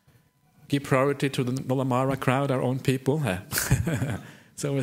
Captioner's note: laughs